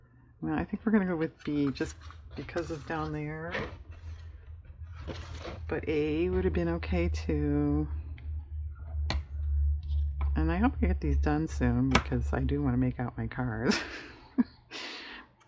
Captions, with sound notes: well i think we're going to go with B just because of down there, but A would have been okay too i hope to get these done soon because i do want to make out my cards (laughs)